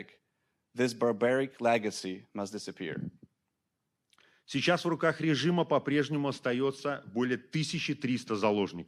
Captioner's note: speaking Belarusian